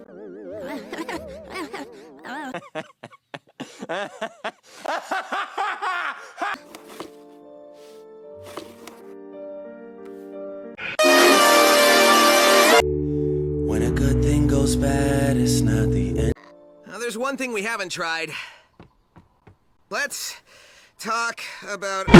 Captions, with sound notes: *nervous laughing* *benson laughing aggressively* *auto tune crying* when a good thing goes bad.. There's one thing we haven't tried Let's.... talk..... about.....